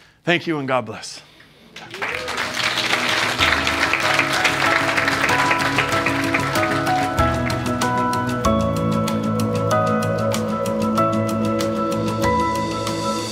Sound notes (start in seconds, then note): 1.6 students applauding; 2.4 bright music